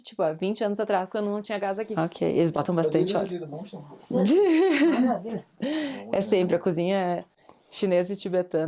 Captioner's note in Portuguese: risadas